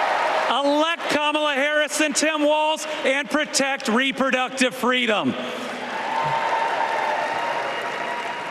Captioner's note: applause